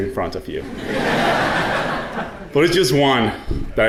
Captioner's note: audience laughing